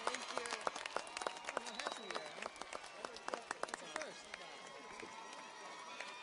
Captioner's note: audience members chatter